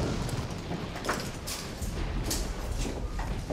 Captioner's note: war zone noise